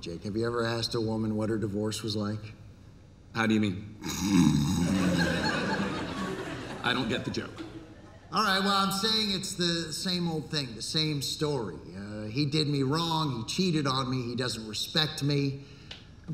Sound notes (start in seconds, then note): 4.0 pretending to snore; 4.8 laughter